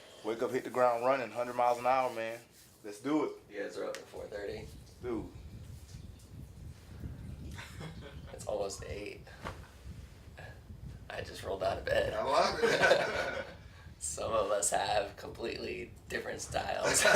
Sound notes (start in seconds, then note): 7.5 chuckles; 7.5 chuckling; 12.4 laughter